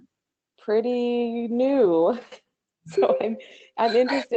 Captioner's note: chuckles